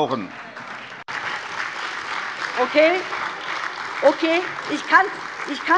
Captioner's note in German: Beifall CDU, Freie Demokraten, AfD